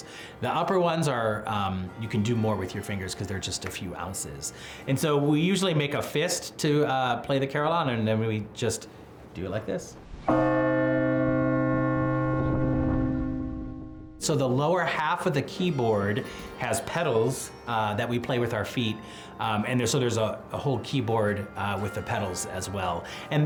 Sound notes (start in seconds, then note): 10.3 bell chiming